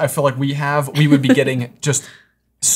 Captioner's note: chuckling